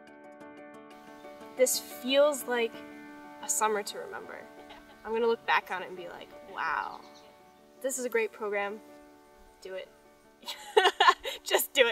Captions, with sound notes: This feels like a summer to remember. I'm going to look back on it and be like, wow! This is a great program. Do it. [Laughing] Just do it . . . No, I'm kidding.